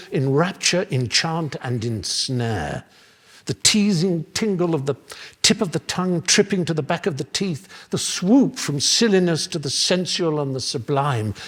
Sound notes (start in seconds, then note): none